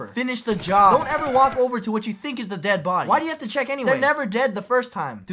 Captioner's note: none